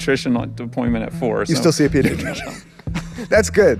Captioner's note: laughs